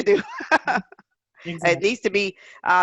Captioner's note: laughs loudly